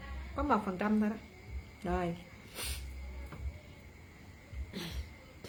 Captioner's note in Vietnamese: khịt mũi